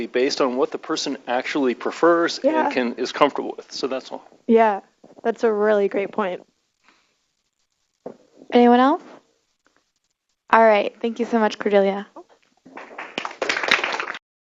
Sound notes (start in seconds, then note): 12.7 applause